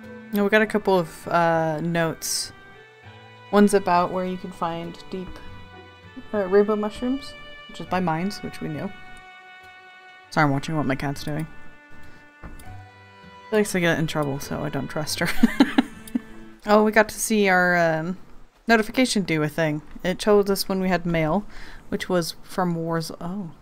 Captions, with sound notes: Oh, we got a couple of uh notes. One's about where you can find deep- er rainbow mushrooms which is by mines which we knew. Sorry I'm watching what my cat's doing. She likes to get in trouble so I don't trust her *laughs* Oh we got to see our notification do a thing! It told us when we had mail which was from Warz- oh...